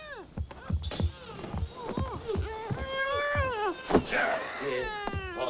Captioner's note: Tommy snuffling; foot whacks